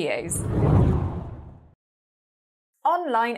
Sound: hard whooshing

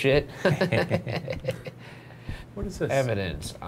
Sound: laughing

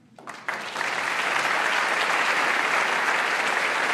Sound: applause

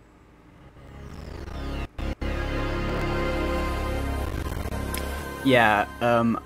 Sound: Pitch-altered Windows 98 startup sound but really stuttery

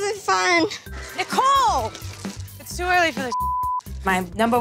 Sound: beep

